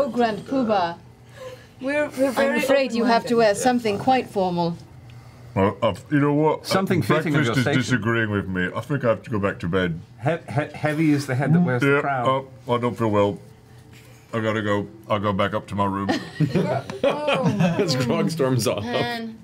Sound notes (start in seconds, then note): 12.7 gags; 16.2 laughs